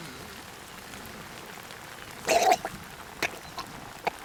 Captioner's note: man gagging